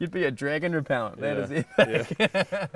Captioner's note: laughing